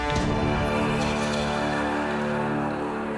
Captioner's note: evil whispers